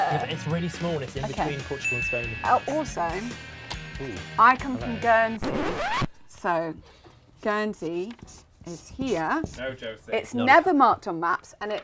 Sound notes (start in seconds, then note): 1.8 bell dings; 5.3 record scratch